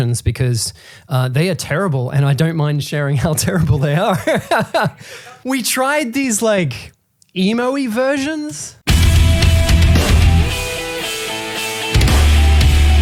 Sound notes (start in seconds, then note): 3.3 laughing; 8.8 hardcore rock music playing